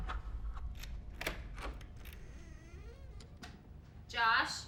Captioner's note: lock clicks; door creaks